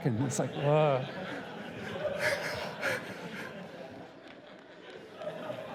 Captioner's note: laughter